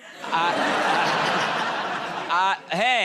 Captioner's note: laughter